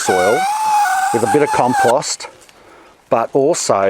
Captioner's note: hose screeches